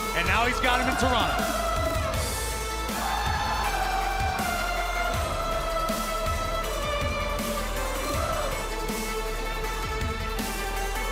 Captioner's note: crowd cheering